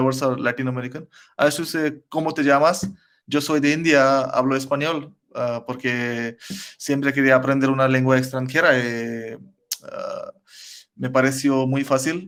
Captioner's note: Spanish